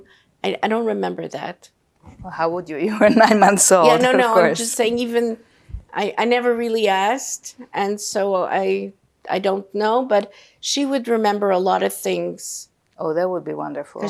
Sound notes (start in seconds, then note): 3.1 laughing